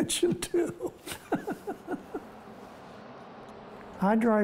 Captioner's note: laughing